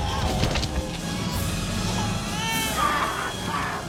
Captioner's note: crying; snarling, Growling